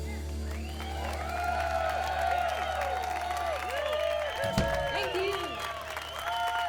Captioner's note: crowd applause